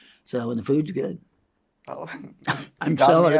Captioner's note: inhales